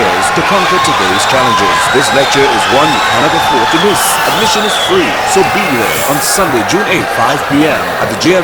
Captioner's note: wild applause and cheering for 22 seconds